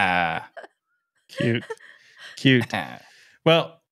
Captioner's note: laughing